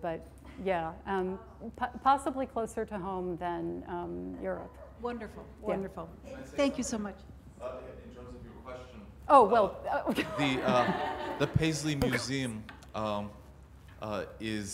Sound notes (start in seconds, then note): 10.0 laughs